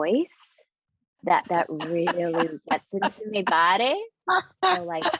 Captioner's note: laughing